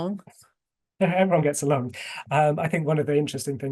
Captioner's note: chuckles